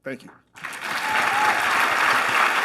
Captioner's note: applause